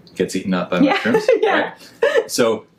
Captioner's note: laughs